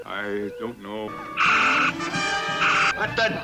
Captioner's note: electronic sounds